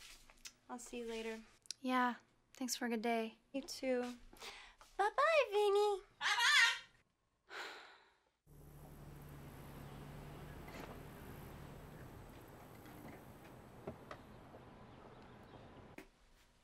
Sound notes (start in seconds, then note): 6.9 sighs